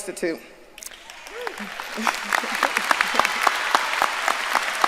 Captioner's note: audience applauding